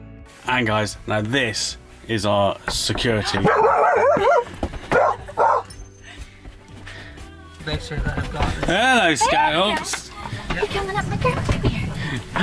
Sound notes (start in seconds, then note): 2.7 knock on the door; 3.2 dogs start barking